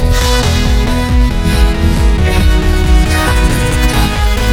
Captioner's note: panicked whimpering